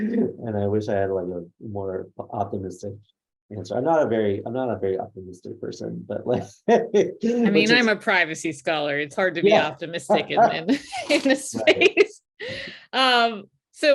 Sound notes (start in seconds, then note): 6.2 laughs; 10.0 laughs; 13.0 laughs